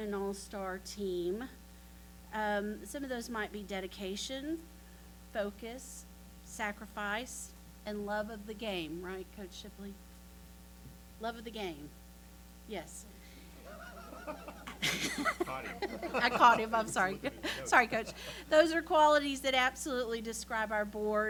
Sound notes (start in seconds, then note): 13.4 laughter